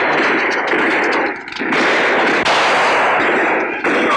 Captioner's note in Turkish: Silah sesleri